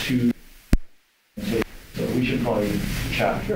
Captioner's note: microphone cutting out